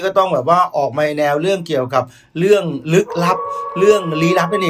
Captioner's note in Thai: เสียงหมาหอน